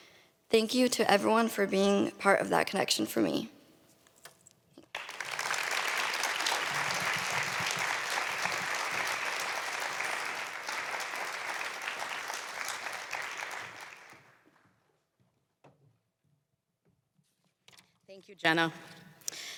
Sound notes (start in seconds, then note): 4.9 applause